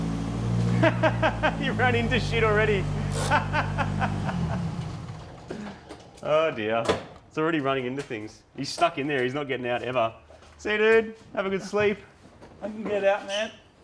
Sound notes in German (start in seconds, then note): 0.6 Lachend; 3.3 lacht noch immer